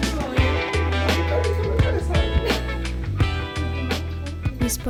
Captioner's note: indistinct chatter